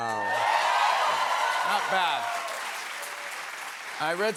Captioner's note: cheers and applause